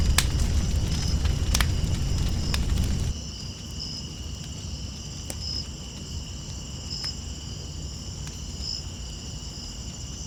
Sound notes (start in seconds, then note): 4.1 crickets chirping